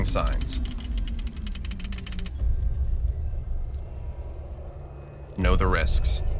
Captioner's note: chip rattles